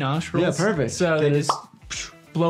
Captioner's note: quick air blowing